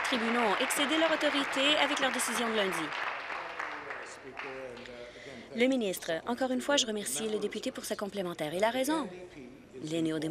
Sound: applause

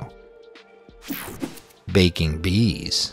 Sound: logo whooshing

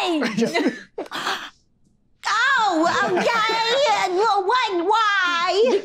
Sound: gasps

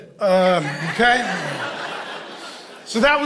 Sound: congregation laughing

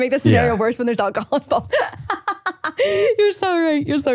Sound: laughing

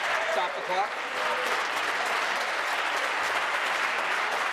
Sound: voice trailing

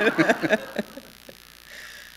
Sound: laughter

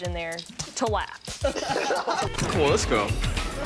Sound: laughing

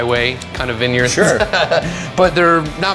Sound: laughs

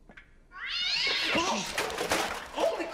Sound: cat yowling again

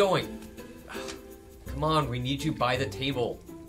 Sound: sighs

